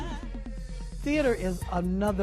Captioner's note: vocalizes